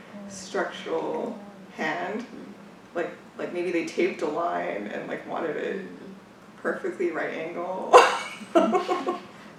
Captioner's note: laughs